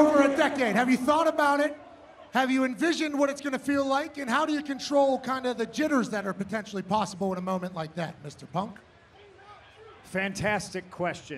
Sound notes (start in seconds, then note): 2.1 crowd chanting "cm punk"